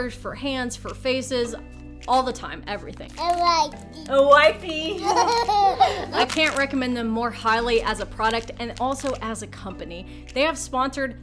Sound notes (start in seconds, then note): 4.8 giggles